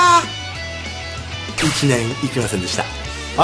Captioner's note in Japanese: ピシュン音